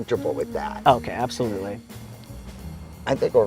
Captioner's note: pat